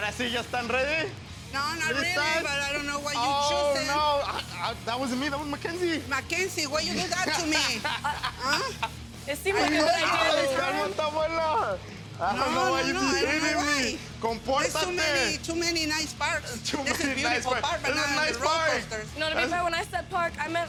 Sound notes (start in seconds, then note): 0.1 speaking Spanish; 6.7 laughing; 14.5 speaking Spanish